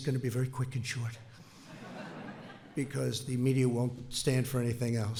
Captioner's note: laughter